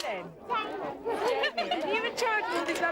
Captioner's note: laughing